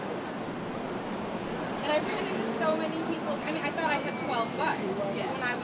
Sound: crowd

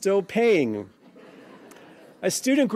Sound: laughing

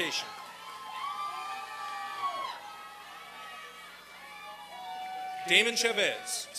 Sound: applause and cheering

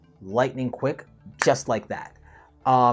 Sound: fingers snap

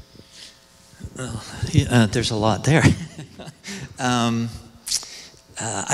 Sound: laughs

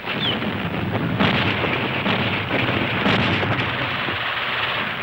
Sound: explosions booming

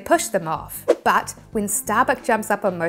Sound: graphics whooshing

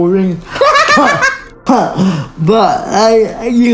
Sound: laughing

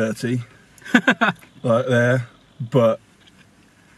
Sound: laughs

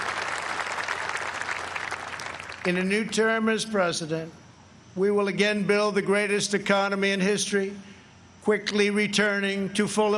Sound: applause

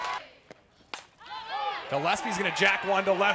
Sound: ball hitting bat

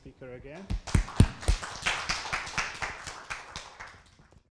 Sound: applause

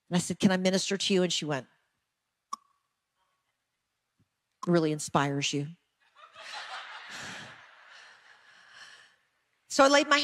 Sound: audience laughing

